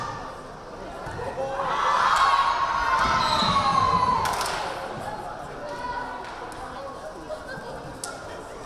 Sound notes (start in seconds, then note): 1.4 crowd cheering; 3.2 whistle blaring